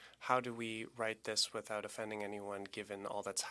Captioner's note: speaking French